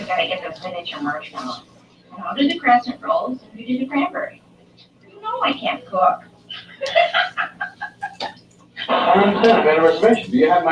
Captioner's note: laugh